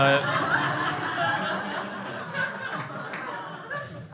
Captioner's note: crowd laughs